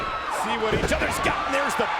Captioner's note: body thudding